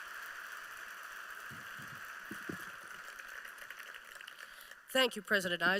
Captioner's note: applause